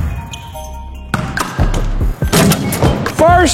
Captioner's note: ball bouncing; dunk sound